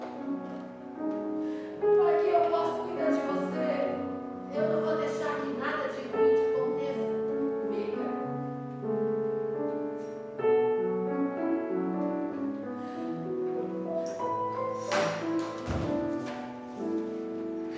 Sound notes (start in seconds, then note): none